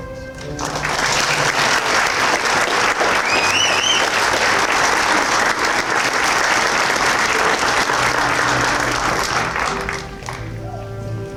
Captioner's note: applause